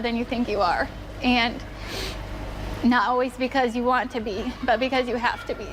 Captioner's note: sniffles